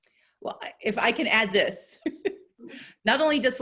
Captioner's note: laughing